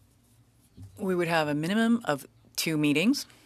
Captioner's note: speaking French